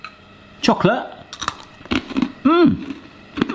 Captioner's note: breadstick crunching